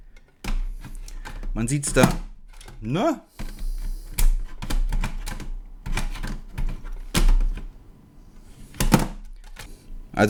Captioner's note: multimeter rattles and keeps falling down